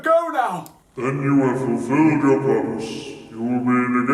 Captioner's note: Delgatoan on speaker